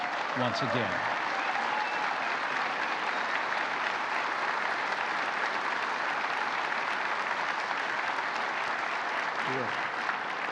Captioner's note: applause